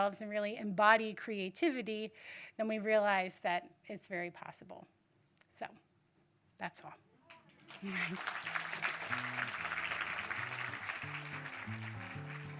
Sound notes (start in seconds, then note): 7.4 audience clapping; 9.0 light guitar music